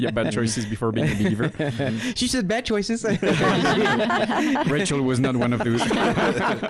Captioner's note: laughing